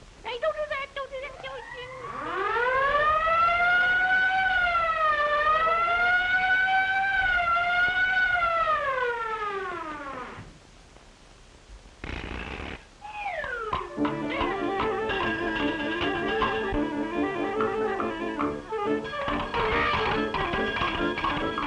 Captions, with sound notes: Hey don't do that, don't do that, don't do do! (sirens blaring) (energetic band music)